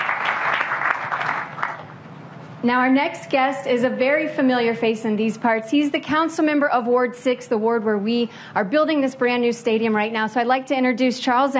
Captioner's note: applause